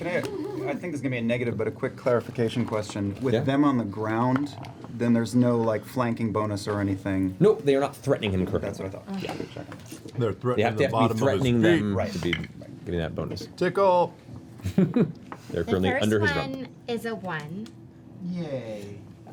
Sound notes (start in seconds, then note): 14.6 laughs